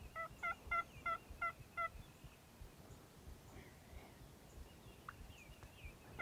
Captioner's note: turkey gobbling and birds chirping